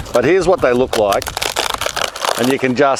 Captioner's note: bark ripping